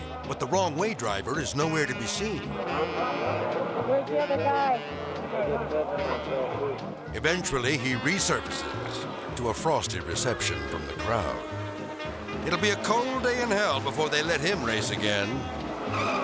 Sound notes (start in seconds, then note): 2.6 melodic music; 5.0 melodic music; 5.0 people chattering